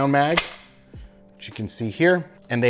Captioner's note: magazine clicking